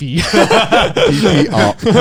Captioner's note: Joey and Garnt laughing